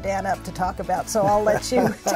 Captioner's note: laughing